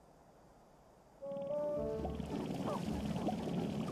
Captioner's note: rattling resumes